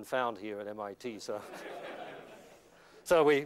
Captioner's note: laughter